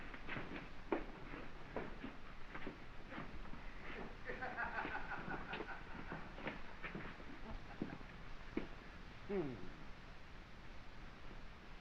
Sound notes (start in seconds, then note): 4.2 laughing